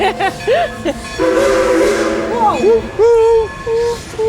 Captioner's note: laughs; train whistle blowing